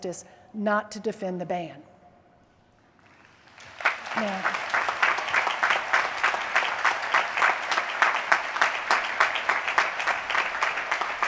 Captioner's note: applause